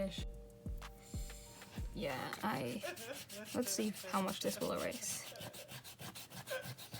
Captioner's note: crying sound effect